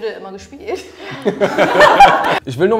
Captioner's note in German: Lachen